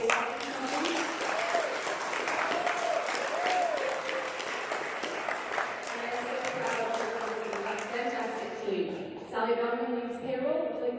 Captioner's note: sound covered by applause